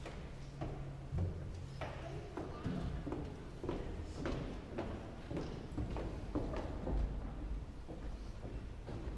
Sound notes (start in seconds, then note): 1.3 footsteps tapping